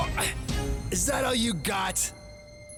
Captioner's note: pained grunt